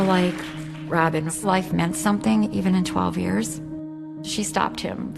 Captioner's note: applause